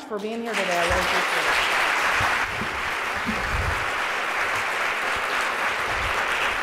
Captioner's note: applause